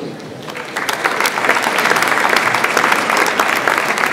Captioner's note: audience applauds